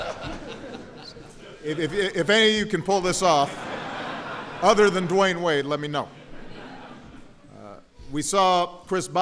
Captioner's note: laughter; laughter